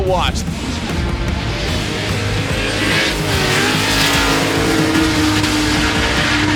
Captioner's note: engines revving; rock music